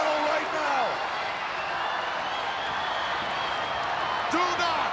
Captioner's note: crowd yelling